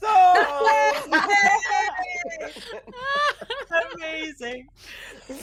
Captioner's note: everyone laughs